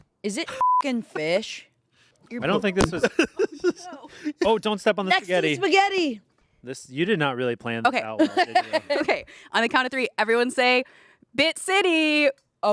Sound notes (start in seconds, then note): 0.5 beep; 2.9 everyone laughs